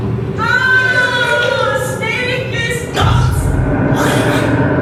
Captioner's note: character shouting